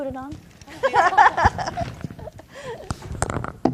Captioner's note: laughs